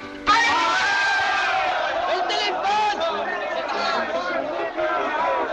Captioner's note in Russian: всеобщее ликование